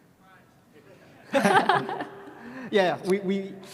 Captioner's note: both laughing